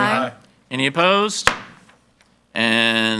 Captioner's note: gavel banging